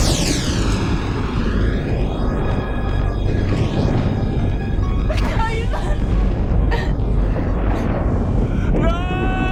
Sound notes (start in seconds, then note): 0.1 thunder crashing; 5.1 crying